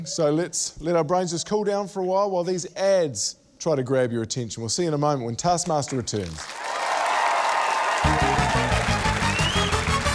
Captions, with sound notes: So let's let our brains just cool down for a while while these ads try to grab your attention. We'll see you in a moment when Taskmaster returns. (CHEERING, APPLAUSE)